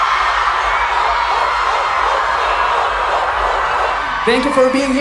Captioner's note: huge cheers